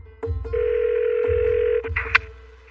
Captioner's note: phone ringing